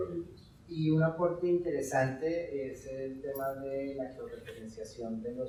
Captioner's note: speaking in Spanish